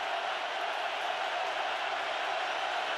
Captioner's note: crowd cheering